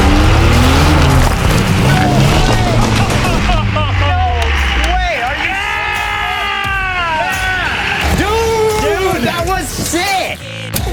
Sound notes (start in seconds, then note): 1.8 cheers